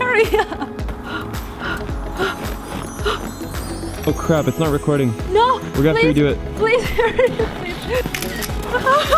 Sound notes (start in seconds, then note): 0.0 laughing; 1.0 gasping